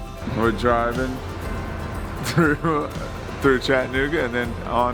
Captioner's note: laughs